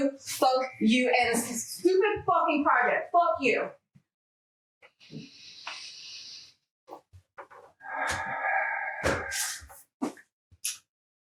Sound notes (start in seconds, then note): 7.9 Richard sighs